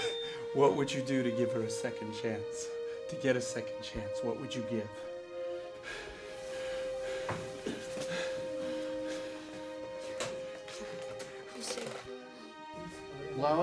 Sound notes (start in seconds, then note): 5.2 Charles breathing heavily